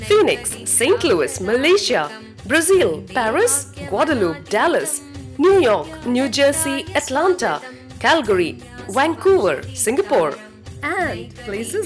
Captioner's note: hindi